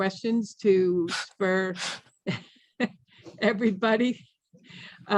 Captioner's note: laughs